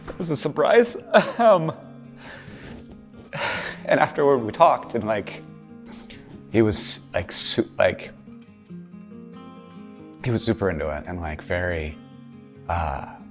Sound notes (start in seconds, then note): 3.2 sighs